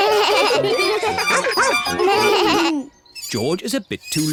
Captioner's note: all giggle